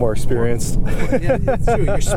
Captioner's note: laughter